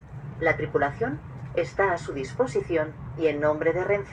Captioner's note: train announcement in spanish